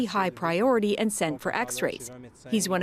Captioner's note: speaking French